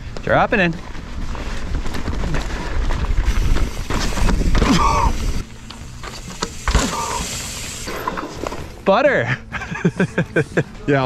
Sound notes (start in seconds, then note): 1.6 tires crunch on dirt; 9.2 laughs